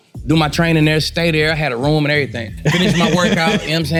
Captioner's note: laughing